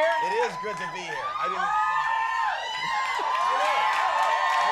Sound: audience cheering

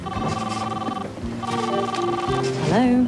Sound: phone rings

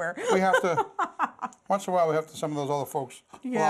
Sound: laughter

